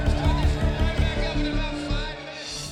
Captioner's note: cheering and applause